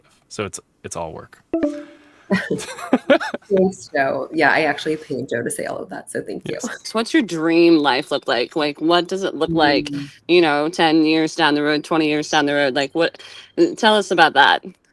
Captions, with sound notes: So it's all work. (laughing) - Yeah, I actually paid Joe to say all of that. So thank you. - So what's your dream life look like? Like what does it look like, you know, 10 years down the road, 20 years down the road? Like what, tell us about that.